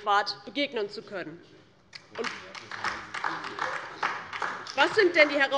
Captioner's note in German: Beifall DIE LINKE